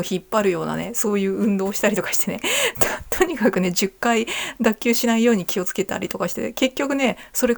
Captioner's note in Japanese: 笑い